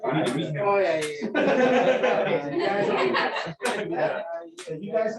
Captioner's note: laughter